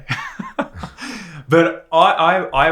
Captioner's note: laughs